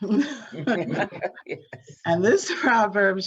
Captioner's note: both laughing